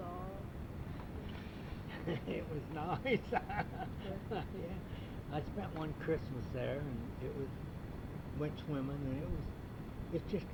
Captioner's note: laughs